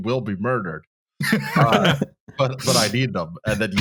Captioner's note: laughter